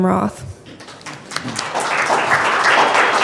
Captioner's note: audience applause